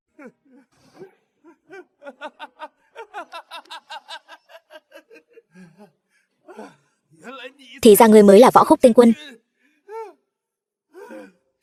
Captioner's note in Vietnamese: Tiếng cười